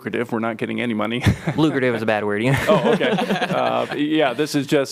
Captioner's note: laughter